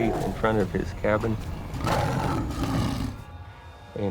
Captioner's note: growling